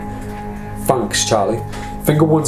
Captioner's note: bird squawKing